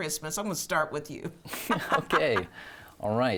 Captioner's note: laughs